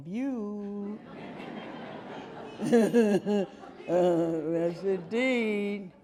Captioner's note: audience laughing